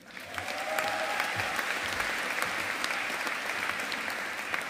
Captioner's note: audience applauding